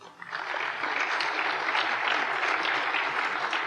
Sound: applause

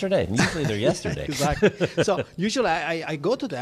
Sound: laughing

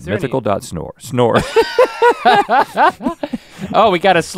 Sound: both laugh

